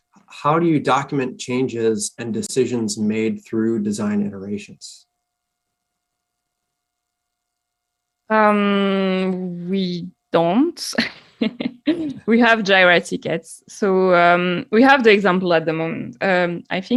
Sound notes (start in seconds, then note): 11.0 laughing